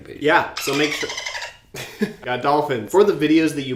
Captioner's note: dolphin laughter